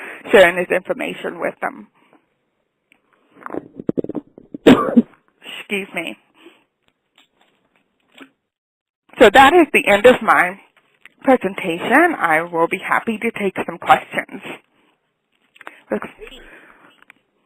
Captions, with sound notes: sharing this information with them. (coughs) Excuse me. So that is the end of my presentation. I will be happy to take some questions.